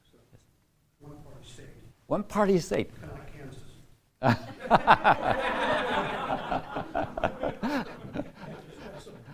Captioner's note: laughter